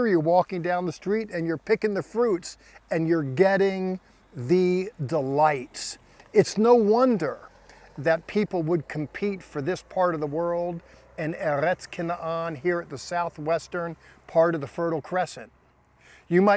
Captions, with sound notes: Here you're walking down the street and you're picking the fruits and you're getting the delights. It's no wonder that people would compete for this part of the world [speaking Hebrew] here at the southwestern part of the fertile crescent.